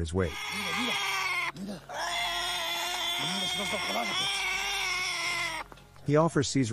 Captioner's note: donkey scream